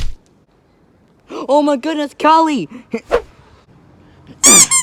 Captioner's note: gasp